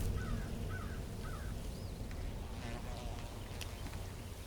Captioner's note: birds chirping